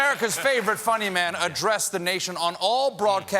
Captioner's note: applause